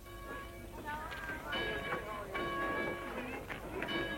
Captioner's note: group chatter